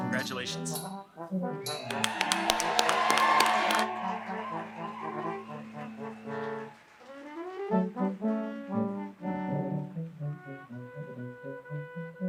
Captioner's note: applause